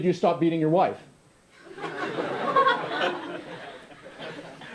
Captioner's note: laughter